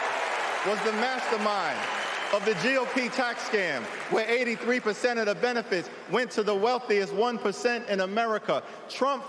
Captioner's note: cheering